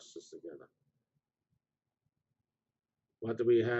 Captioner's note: pause